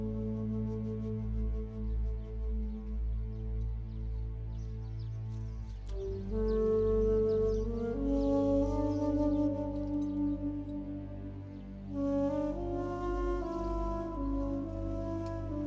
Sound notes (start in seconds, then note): none